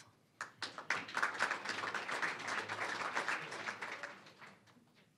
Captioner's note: applause